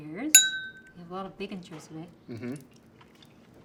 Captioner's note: clinking sound